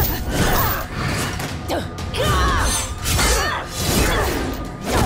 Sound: grunting

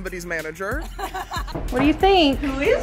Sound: all laugh

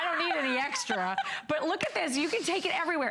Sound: laughter

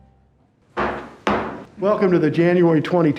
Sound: gavel bangs

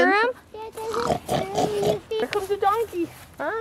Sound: pig snorting sounds

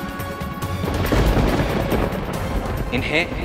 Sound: thundering

